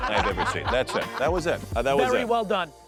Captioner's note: laughing